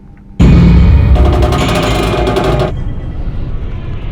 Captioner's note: metal creaking; tense music